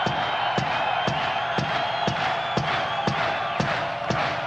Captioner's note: crowd clapping on beat